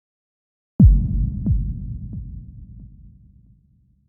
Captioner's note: low thumping